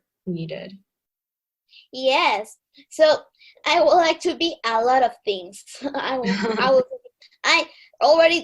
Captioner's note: laugh